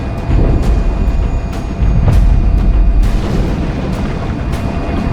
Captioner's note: water explosions